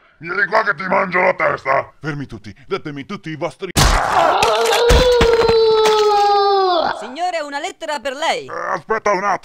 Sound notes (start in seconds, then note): 3.9 gaaaarghhh